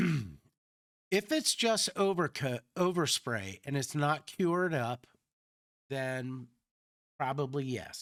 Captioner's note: clears throat